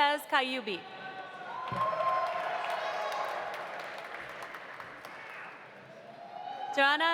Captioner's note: audience cheering; audience applauding